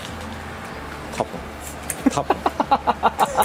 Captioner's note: laughs